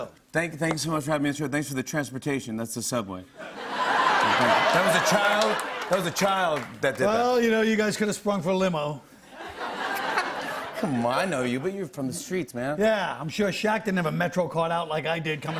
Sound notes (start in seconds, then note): 3.4 laughter; 9.3 laughter